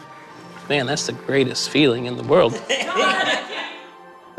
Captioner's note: laughter